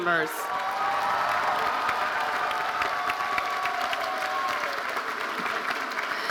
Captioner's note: audience cheering and applauding